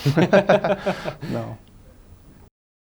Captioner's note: laughing